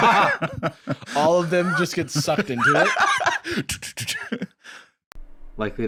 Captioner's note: laughs